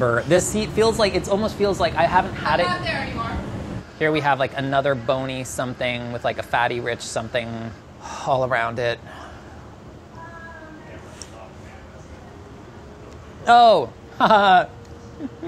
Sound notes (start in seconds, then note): 15.0 laughs